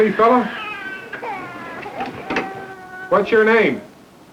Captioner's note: baby continues to cry